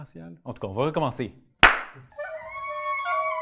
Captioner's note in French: clap